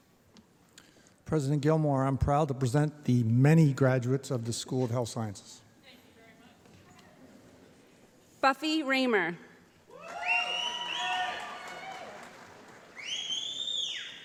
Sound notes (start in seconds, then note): 9.9 applause